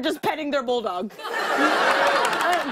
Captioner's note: laughter